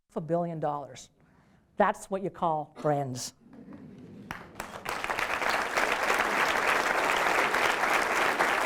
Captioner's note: applause